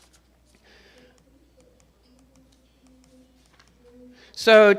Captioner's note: computer mouse clicking